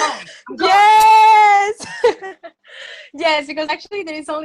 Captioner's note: laughs